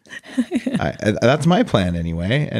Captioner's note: laughs